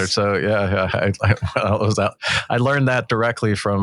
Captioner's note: laughs